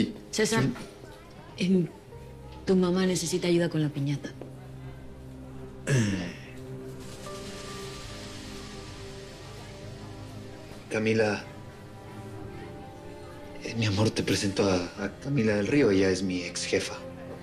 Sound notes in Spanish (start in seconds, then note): 5.9 Carraspea